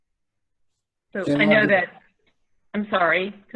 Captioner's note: murmurs